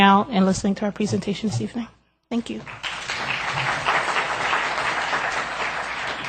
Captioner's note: applause